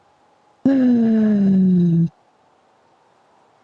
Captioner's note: sigh